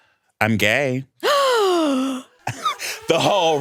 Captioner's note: gasps; alarm blaring